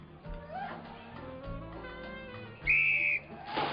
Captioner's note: whistle blowing